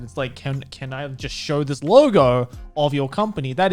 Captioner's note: none